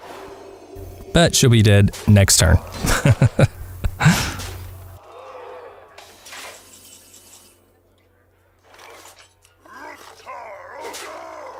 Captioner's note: haha